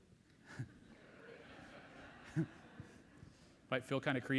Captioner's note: audience laughs